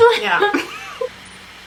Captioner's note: both laugh